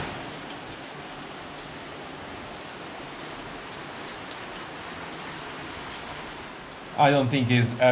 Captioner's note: rain